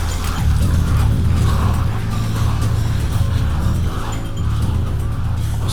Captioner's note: snarling & slurping